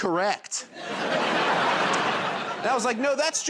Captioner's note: laughter